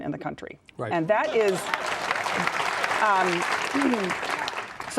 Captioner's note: audience clapping